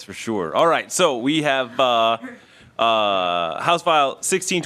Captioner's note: laughing